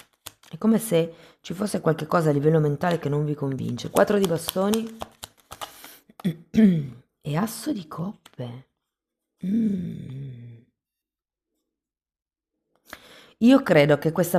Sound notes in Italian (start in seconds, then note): 6.2 schiarire la voce